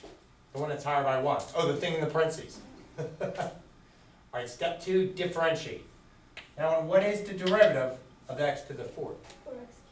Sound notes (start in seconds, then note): 2.7 chuckles